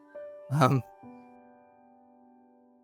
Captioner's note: voice breaks